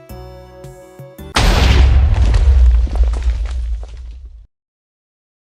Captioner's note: explosion